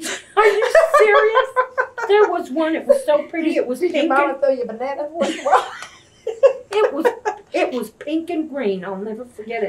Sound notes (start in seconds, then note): 5.2 laughter